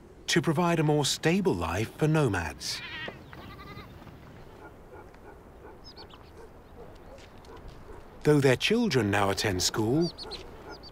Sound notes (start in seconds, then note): 3.3 sheep bleating; 4.5 dog barking